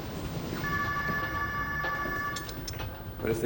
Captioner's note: ringing continues